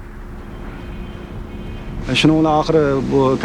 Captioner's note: horn honking